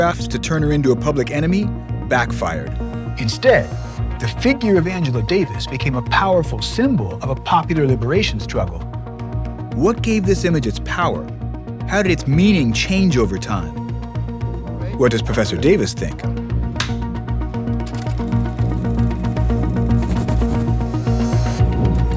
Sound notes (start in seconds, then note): 16.8 slate claps; 19.4 upbeat music